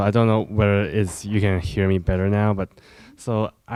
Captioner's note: none